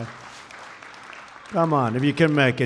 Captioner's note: applause